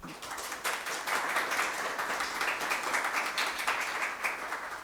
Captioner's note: audience applauds